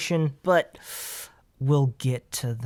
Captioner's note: inhales in exasperation